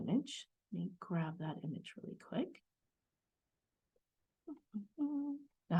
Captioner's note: softly hums